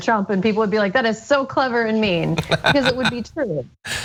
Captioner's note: laugh